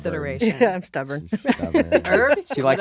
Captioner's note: laughing